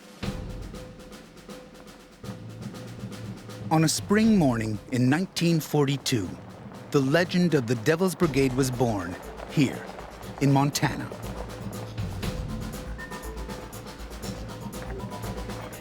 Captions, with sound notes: - [Voiceover] On a spring morning in 1942, the legend of the Devil's Brigade was born here in Montana. (thrilling electronic music)